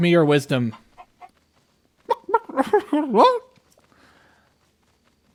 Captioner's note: cluck; cluuuck